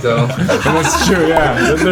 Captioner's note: everyone laughs